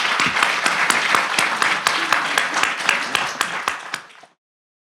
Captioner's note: audience applauding